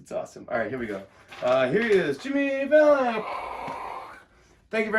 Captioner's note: imitates cheering